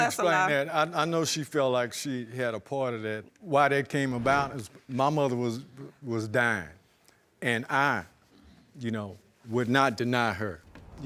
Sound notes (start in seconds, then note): none